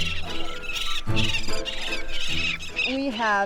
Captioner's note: birds chirping; whimsical music continues